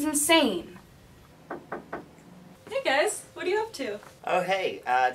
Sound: knock knock knock

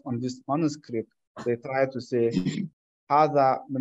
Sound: speaking Arabic

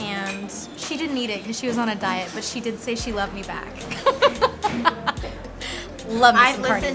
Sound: laughter

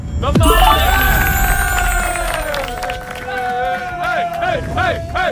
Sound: Sidemen cheers and claps

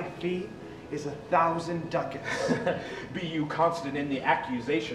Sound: chuckles

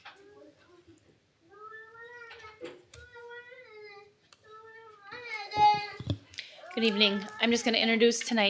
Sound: child fusses in background

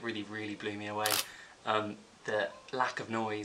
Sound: camera clicks

